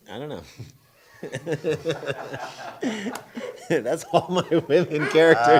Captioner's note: laughing